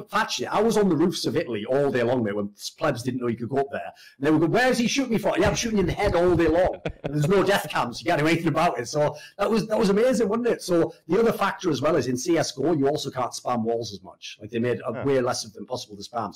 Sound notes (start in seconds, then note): 5.4 laughs